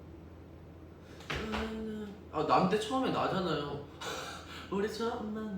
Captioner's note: humming